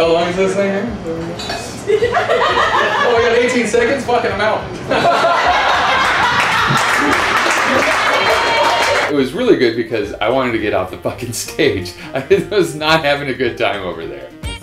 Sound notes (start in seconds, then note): 4.8 laughter; 6.0 applause